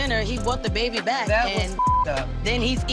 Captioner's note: beep